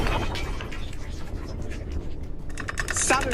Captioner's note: rumbling; rattling